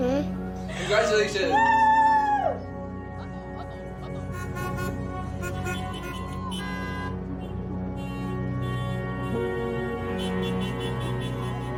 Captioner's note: car horns honking